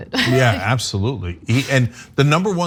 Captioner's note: laugh